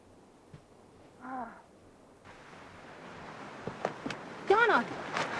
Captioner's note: Donna sighing